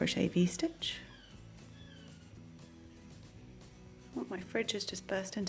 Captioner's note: birds chirping